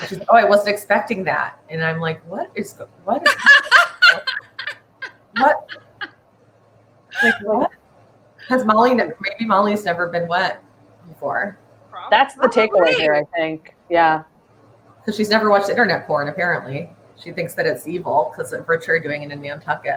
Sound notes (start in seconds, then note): 3.2 laughs